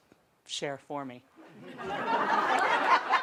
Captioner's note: much laughter